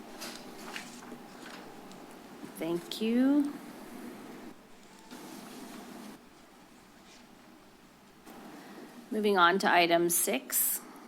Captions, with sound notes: [paper rustles] Thank you. [pause] Moving on to item six,